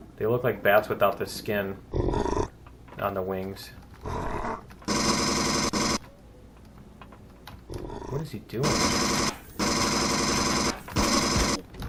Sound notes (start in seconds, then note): 4.8 pulse rifle; 9.6 pulse rifle; 10.6 pinging